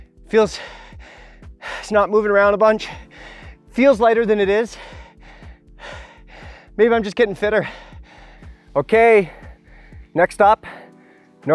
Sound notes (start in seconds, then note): 4.7 heavy breathing